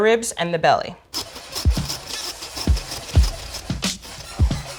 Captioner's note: sawing noise